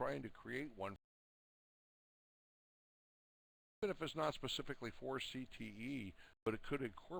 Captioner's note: audio drops